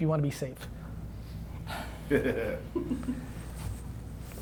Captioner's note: laughing